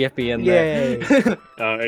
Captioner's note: laughs